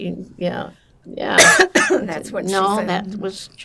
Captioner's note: coughing